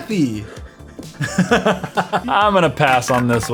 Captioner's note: laugh